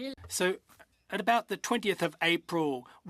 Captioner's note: speaking in French